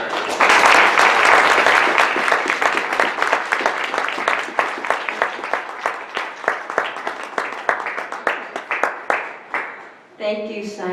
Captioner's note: audience clapping